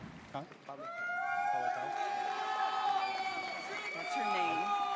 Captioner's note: audience cheers